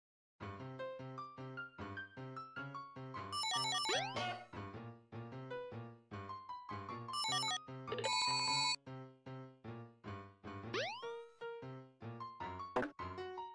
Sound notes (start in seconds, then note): 2.7 Off-pitch Ring collecting noise; 3.9 Off-pitch jumping and hitting enemy noises from Sonic titles